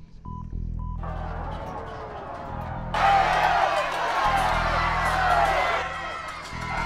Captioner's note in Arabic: صفير; يستمر الصراخ